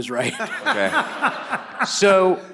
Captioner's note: all laughs